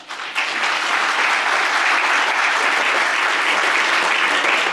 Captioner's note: applause